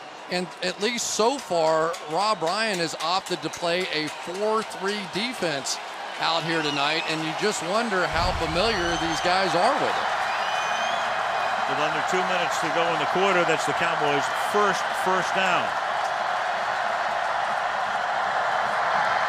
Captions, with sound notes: It and at least so far, Rob Ryan has opted to play a 4-3 defense out here tonight. And you just wonder how familiar these guys are with it. [cheering] So under 2 minutes to go in the quarter, that's the Cowboys' first first down.